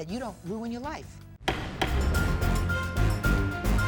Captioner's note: gavel banging; suspenseful music